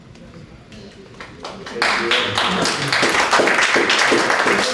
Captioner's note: applause